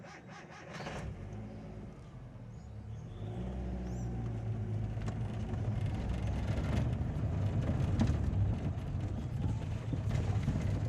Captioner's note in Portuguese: motor de carro